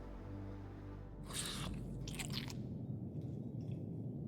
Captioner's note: loud crunching